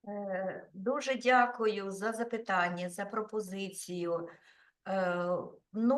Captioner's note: speaking Ukrainian